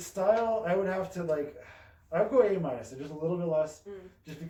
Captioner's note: sighs